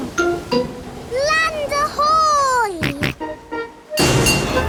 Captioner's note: snorts